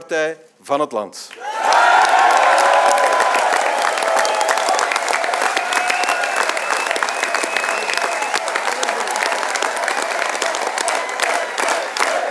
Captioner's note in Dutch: applaus